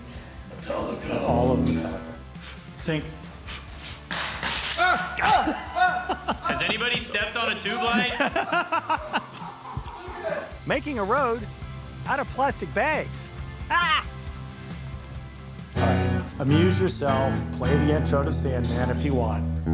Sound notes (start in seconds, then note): 0.2 upbeat music; 3.5 clanking; 4.7 hollering; 9.3 all laughing; 14.3 upbeat music